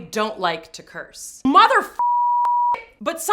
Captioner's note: beep